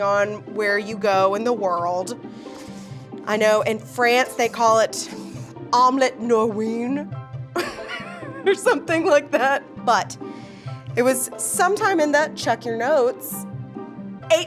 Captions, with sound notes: on where you go in the world. I know in France they call it omelette norvegienne. (laughs) Or something like that, but it was sometime in the, check in your notes, 1804.